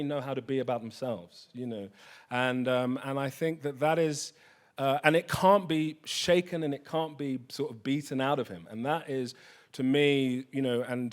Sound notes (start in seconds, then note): none